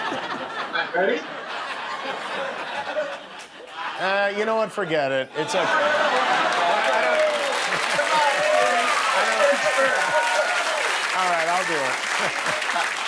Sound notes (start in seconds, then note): 3.3 laughter; 10.7 cheers and applause